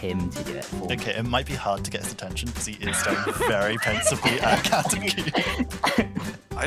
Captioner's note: laughter